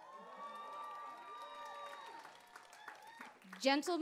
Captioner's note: applause